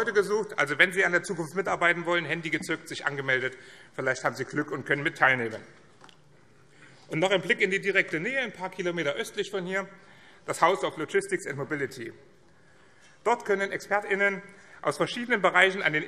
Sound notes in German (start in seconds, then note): none